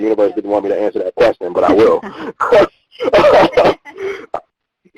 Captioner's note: both laughing